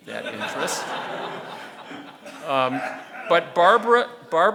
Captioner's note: audience laughing